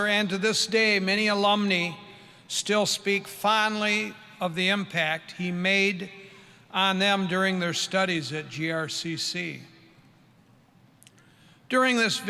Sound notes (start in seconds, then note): none